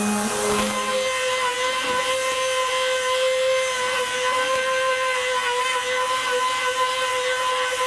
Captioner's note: sanding